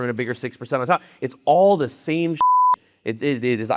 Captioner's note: beep